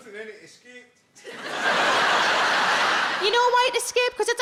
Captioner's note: audience laughing